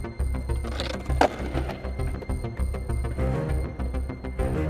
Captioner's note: skateboard clattering